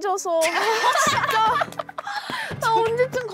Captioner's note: laughing